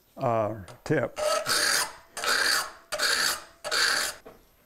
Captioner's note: metal-on-metal scraping